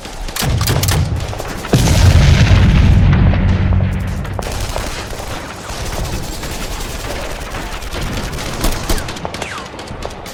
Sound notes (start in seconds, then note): 0.2 gun blasts; 0.5 explosion booms; 4.4 guns blasting